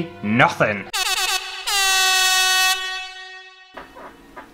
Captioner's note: air Horn Sounds